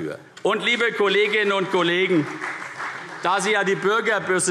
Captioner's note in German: Beifall CDU und BÜNDNIS 90/DIE GRÜNEN